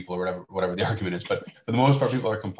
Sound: both laughing

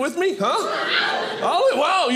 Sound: crowd cheering

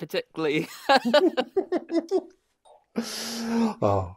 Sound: laughter

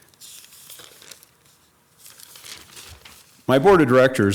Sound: paper crinkles

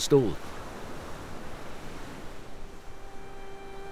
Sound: wind gusting

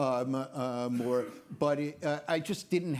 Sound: attendee coughs

